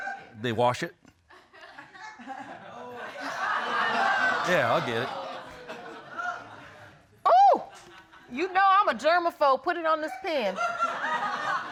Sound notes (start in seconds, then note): 1.4 audience laughing; 10.4 audience laughing